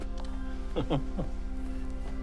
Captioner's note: Oscar chuckling